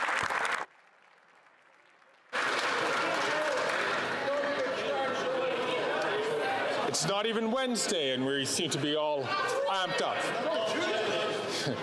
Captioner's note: some Applause